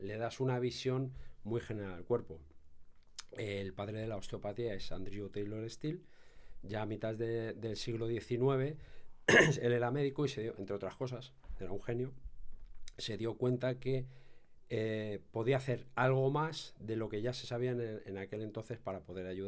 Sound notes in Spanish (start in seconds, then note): 9.3 carraspeo